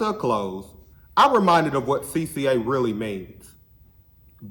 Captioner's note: none